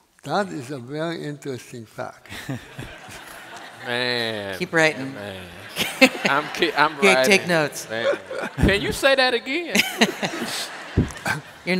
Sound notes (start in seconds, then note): 5.1 laughter; 10.2 laugher